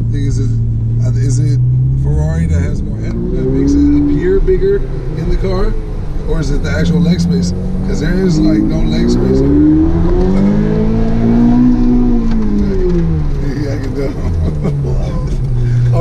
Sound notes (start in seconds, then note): 9.5 engine roars; 13.3 murmurs; 13.5 laughing